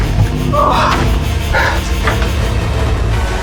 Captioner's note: Hawk groans; suspenseful music continues